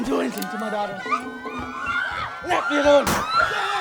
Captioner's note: screaming